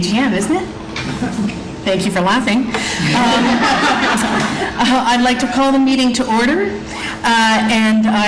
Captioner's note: audience Laughs